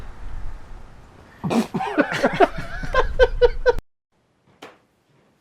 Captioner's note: laughs